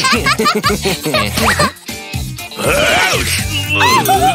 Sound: giggling; giggling

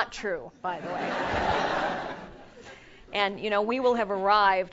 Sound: laugh

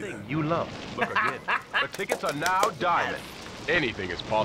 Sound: laughing

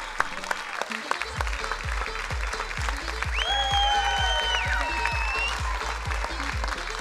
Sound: crowd cheering; upbeat music

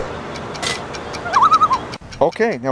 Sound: loon call

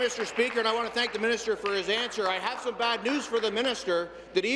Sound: applause

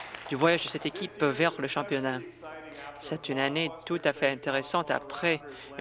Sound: some Applause

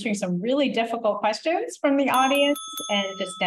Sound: bell dings

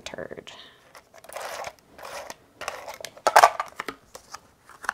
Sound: glue rolling

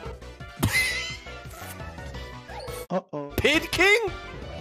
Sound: laughs

